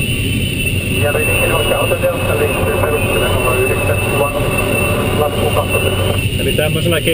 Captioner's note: radio